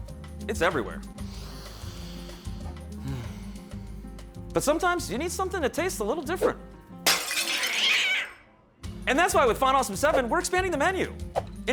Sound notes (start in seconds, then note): 1.1 sniffing and sighing; 7.0 glass breaking and cat screech